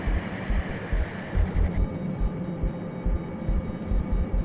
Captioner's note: error signal